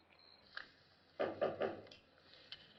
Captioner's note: knocking on door